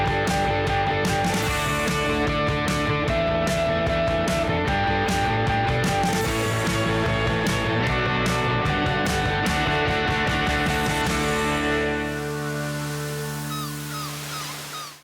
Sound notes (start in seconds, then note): 12.9 gulls cawing